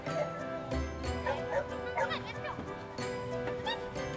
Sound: dogs barking

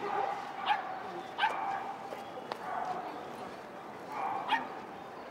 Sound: dogs barking

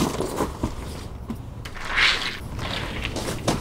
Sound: door opens

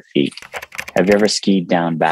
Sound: keyboard clicking

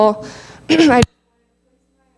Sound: clears throat

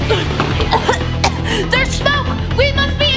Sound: coughing

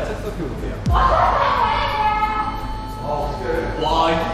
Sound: crying

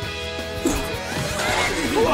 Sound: laughing

